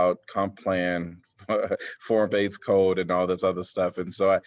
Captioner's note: laughter